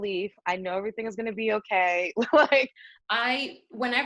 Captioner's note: laughs